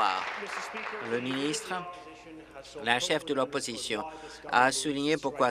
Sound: applause

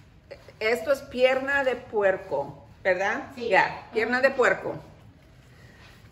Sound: Spanish

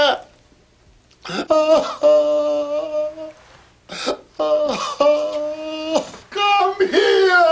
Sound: sobbing

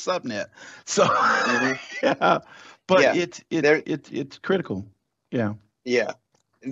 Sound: laughs

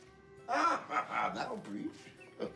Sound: laughs

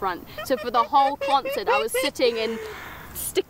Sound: giggling

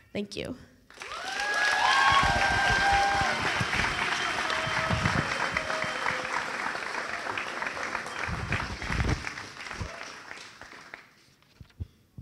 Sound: cheering applause

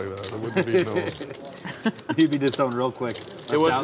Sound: laughing

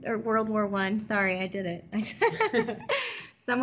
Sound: giggle

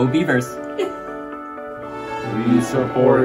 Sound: laughs

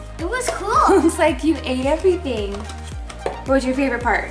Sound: laughs

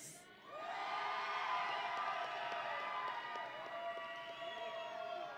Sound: audience and graduates cheering

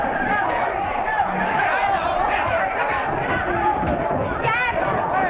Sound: crowd noise

